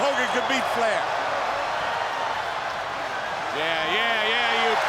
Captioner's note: crowd cheering